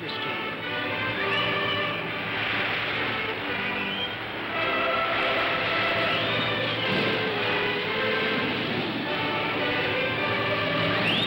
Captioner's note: music plays; waves crashing